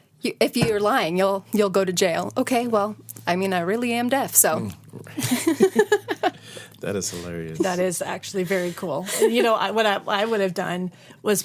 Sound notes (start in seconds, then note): 5.1 laughter